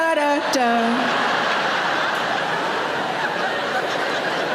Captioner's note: audience laughs